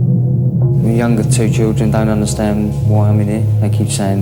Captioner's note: none